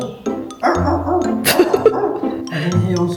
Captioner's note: woof woof woof 🐶